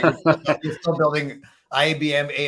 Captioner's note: laughing